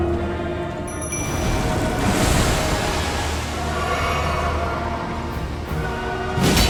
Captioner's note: Godskin groaning; bell ringing; spell whooshing